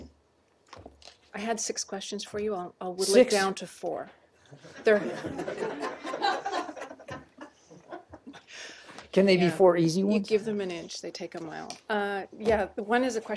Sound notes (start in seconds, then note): 7.8 laughter